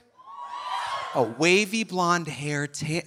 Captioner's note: audience cheering